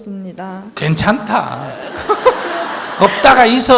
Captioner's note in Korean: 질문자와 청중 웃음